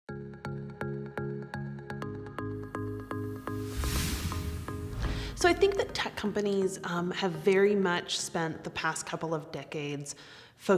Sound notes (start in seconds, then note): 0.3 soft music; 3.0 air whooshing